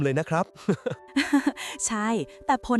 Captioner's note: laughter